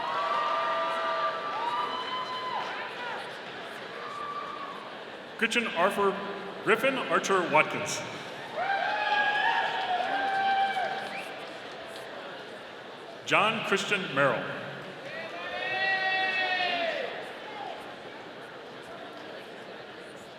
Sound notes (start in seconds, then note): 0.1 audience applauding; 8.3 audience cheering; 17.4 audience cheering